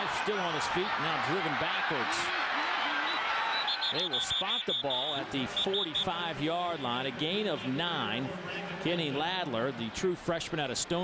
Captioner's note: crowd noise